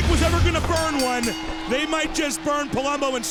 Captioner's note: bell dings